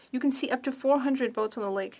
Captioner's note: speaking French